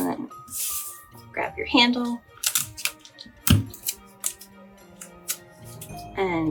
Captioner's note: sound of cutting tape